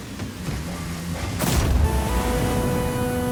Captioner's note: explosion booming; triumphant horn music